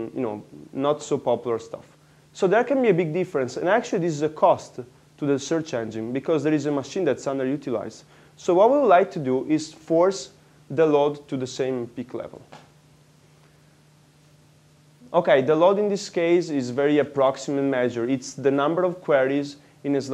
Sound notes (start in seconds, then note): 13.8 pause